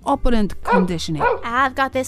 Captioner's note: dog barking